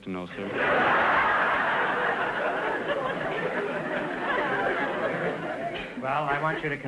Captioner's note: audience laughter